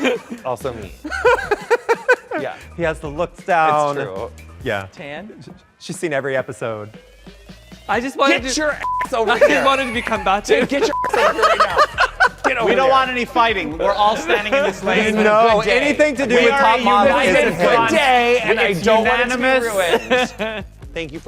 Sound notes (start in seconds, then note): 1.0 Bobby laughing; 8.3 Bobby laughs; 8.7 beep; 10.9 beep